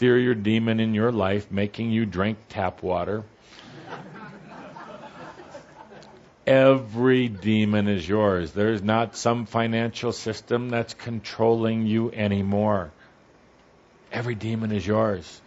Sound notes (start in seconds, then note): 3.7 some laughter